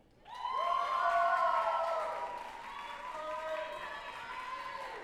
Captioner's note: group applauding and cheering